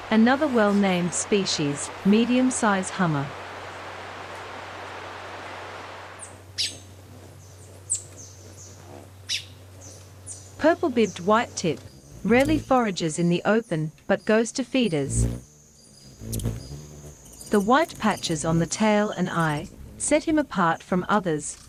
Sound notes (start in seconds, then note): 3.7 birds chirping